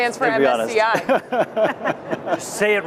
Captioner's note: laughing